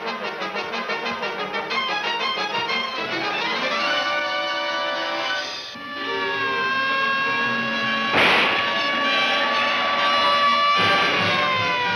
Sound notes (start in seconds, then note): 5.7 siren wailing; 9.1 tires screech